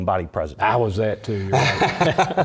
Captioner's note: laugh